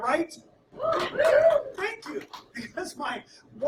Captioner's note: audience "woos"